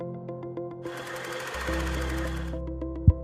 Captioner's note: bright music; projector whirs; microphone thumps